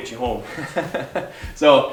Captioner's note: laughing